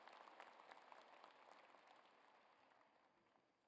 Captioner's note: applause